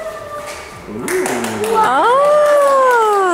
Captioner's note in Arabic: الجميع يصفقون